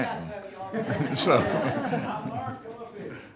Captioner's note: speaking distantly; audience chuckling